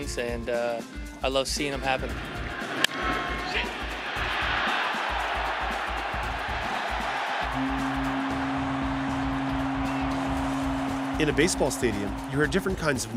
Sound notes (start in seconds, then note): 3.4 crowd cheering; 4.4 horn blowing